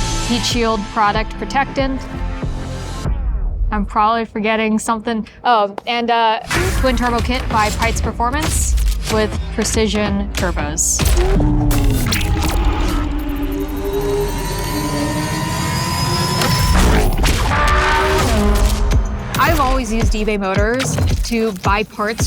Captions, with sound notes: - Heat shield product protectant. I'm probably forgetting something. Oh, and, uh, twin turbo kit by Peitz Performance with Precision Turbos. (engine roaring) (shutter clicks) - I've always used eBay Motors to buy parts